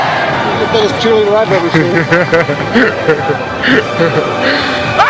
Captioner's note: laughs